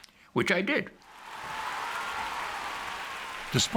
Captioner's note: audience cheering and applauding